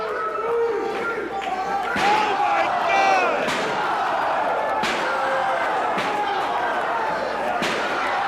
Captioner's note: crowd cheering